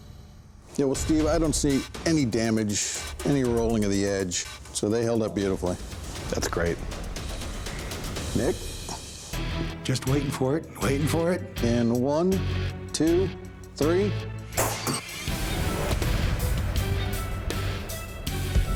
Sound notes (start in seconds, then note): 14.6 whoosh, clang